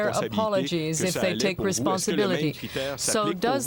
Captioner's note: speaking french